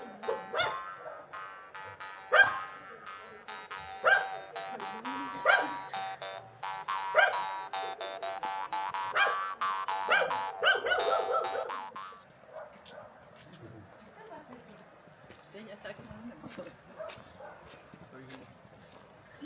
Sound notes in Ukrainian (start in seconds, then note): 4.9 сміх